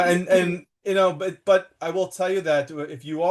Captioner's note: laughs